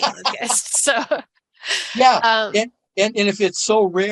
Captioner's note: both laughing